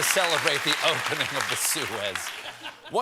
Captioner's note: applause